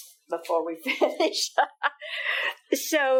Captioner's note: laughing